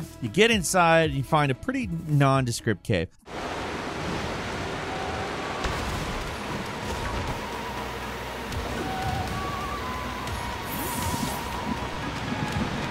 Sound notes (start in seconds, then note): 3.9 air whooshing; 9.7 curious music